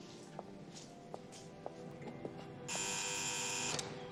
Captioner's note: lock b buzzes